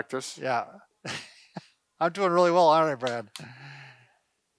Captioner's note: laughs